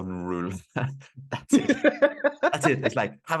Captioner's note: laughing